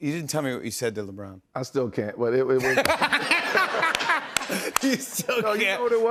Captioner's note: laughter